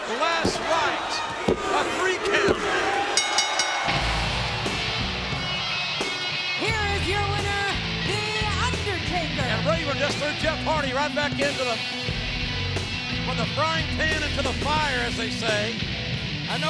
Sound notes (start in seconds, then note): 3.1 bell rings; 3.4 bright rock music